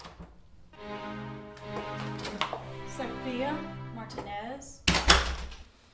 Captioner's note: door opening